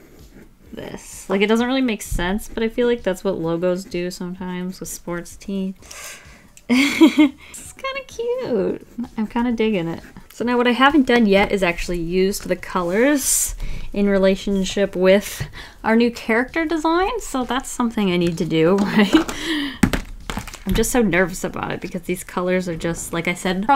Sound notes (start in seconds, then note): 6.6 laughs